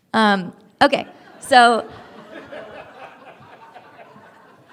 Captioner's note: laughter